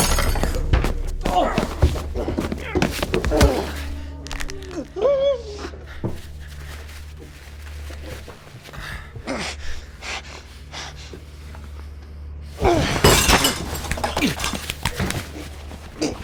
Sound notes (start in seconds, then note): 1.2 grunting; 4.7 squeals